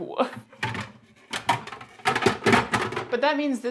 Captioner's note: general clattering